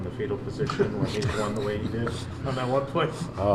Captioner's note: laughs